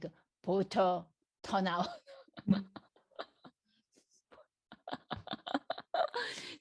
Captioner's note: laughs